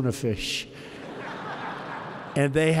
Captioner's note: laughter